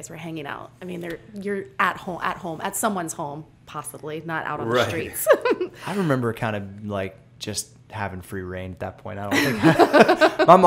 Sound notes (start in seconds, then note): 4.7 giggles; 9.3 laughter